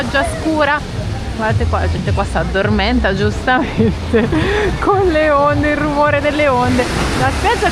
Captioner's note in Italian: risate